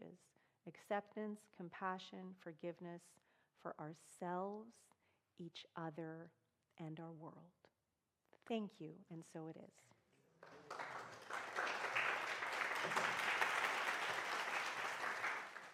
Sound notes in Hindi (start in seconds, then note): 10.4 तालियाँ